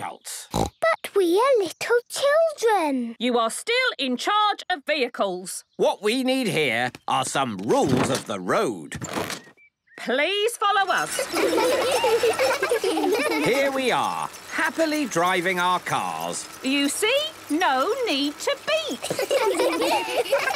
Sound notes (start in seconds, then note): 0.4 snorting; 10.9 laughter; 19.0 laughter